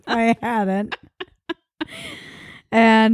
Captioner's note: laughing